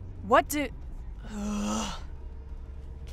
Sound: bored groan

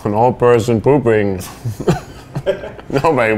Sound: laughs

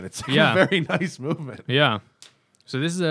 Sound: laughter

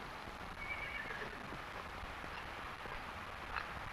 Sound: horse neighing

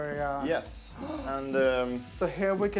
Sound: gasping

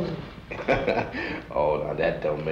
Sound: chuckles

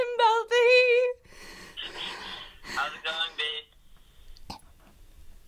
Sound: breathes heavily

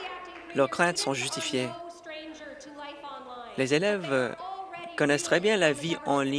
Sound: applause

